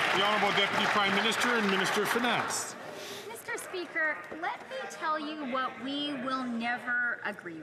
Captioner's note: some Applause